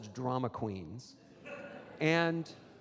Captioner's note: audience laughs